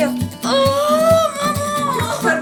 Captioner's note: screams